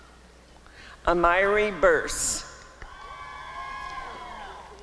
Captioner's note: applause and cheering